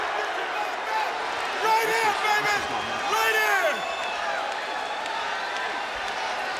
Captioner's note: speaks faintly